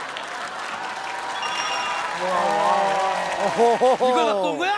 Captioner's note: the crowd goes wild